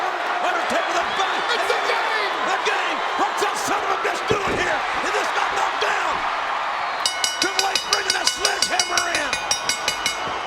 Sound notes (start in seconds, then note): 7.0 bell dinging